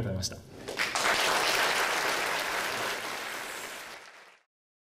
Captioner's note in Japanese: 拍手